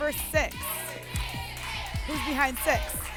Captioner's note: audience shouting numbers